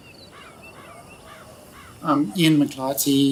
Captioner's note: bird squawking